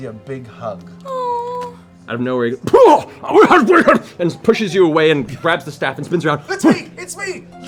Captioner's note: startled grumbling